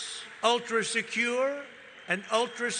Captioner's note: cheering